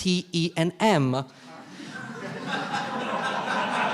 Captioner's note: all laughing